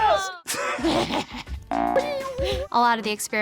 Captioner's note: laughs